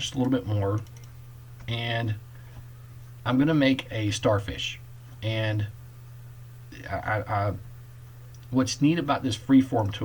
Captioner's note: clicking